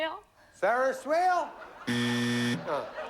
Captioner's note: buzzer